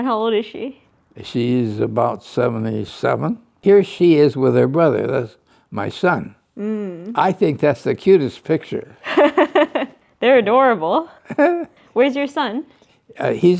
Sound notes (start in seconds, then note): 11.2 laughs